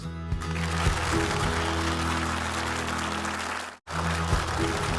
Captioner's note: upbeat theme music; audience clapping